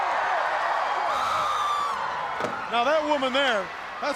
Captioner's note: crowd cheering